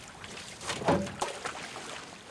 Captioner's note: water splashes